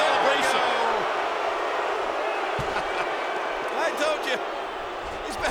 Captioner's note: applause